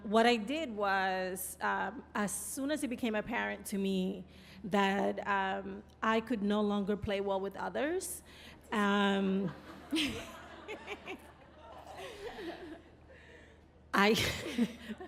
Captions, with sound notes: What I did was as soon as it became apparent to me that I could no longer play well with others... (laughing)